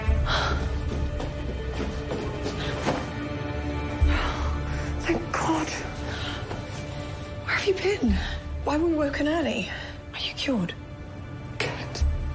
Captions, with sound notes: ( British accent ) Thank God. Where have you been? Why were we woken early? Are you cured? Cat?